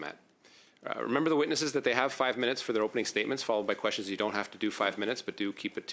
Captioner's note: speaking French